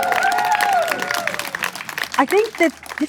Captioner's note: crowd cheers